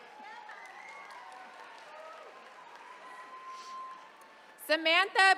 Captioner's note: attendees cheering